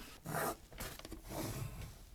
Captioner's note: pencil scratches